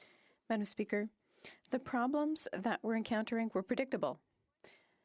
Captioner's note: speaking French